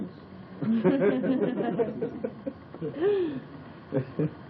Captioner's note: laughter